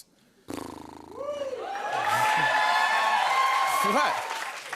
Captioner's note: cheers and applause